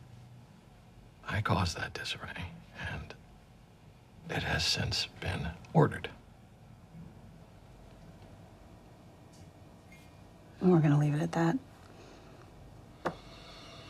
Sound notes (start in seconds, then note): none